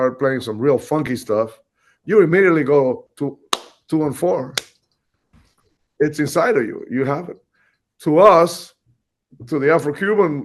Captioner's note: claps